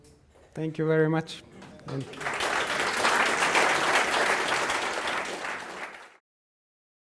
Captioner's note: applause